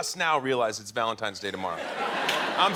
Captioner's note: laughter